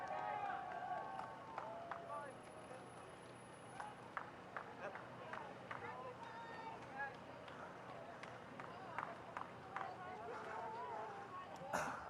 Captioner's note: applause